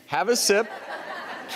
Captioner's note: audience laughs